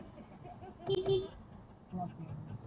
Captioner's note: beep beep